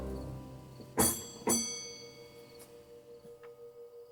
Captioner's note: bell ringing